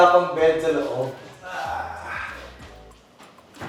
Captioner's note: grunts